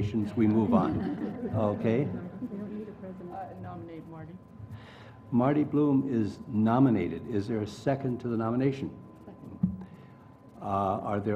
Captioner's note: laugh